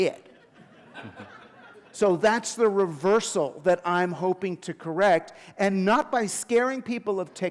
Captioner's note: chuckle